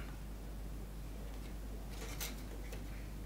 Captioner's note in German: Leises Rauschen im Hintergrund